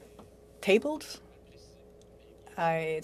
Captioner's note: speaking French